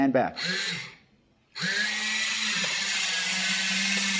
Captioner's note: loud whirring